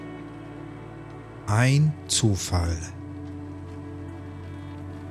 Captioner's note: german